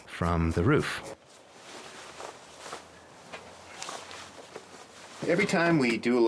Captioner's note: rustling clothes